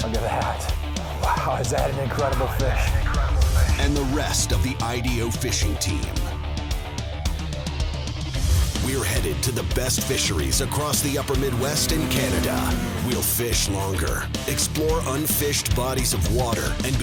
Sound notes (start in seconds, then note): 4.1 voiceover